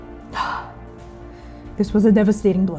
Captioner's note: sighing